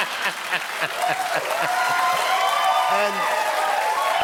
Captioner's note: laughter; cheering